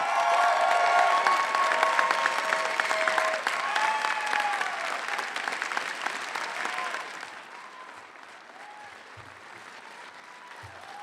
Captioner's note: applause